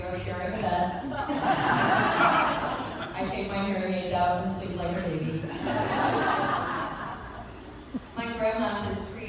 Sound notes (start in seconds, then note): 0.9 laughter; 5.4 laughter